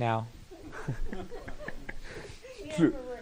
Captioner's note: laughter